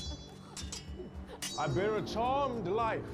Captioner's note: laughing; swords clanging